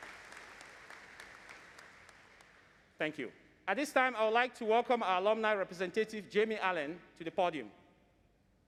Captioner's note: applause